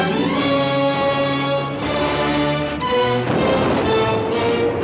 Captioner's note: cannons firing